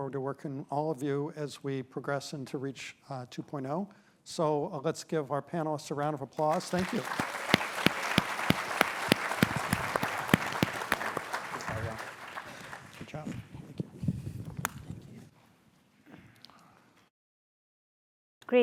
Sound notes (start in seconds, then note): 10.8 applause